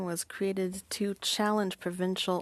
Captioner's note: speaking French